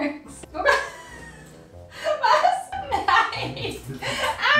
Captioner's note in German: lacht